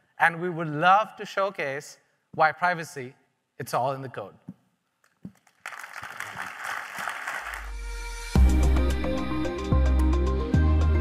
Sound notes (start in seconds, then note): 5.3 audience applauding; 7.6 bright music